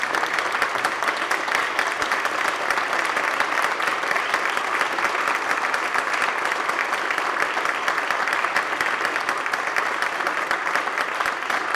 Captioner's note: applause